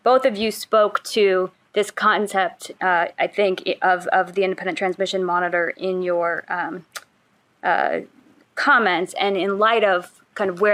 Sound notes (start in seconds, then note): none